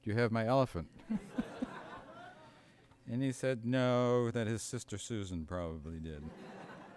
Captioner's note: laughter